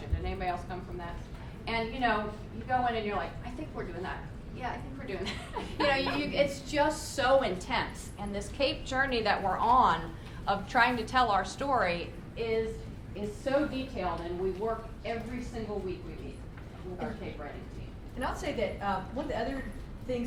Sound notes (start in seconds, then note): 5.2 laughs